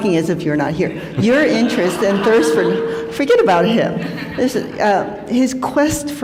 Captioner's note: laughter